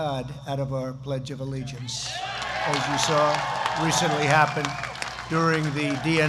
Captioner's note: applause